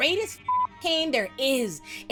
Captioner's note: beep